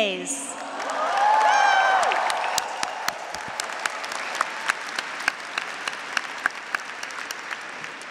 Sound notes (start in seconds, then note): 1.1 audience, graduates, and faculty cheering; 2.5 audience, graduates, and faculty applauding